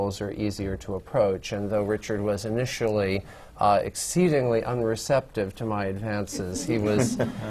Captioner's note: laughter